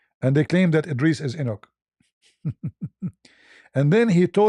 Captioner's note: ketawa